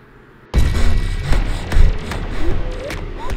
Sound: heavy breathing

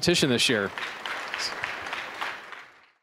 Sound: applause

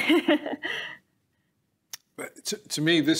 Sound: laughing

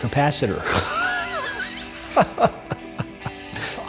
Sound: laughs

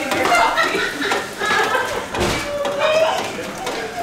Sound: laughter

